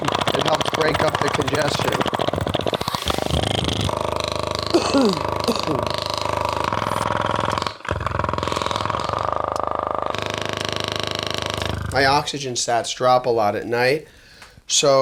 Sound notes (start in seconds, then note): 2.6 clicking; 3.8 coughing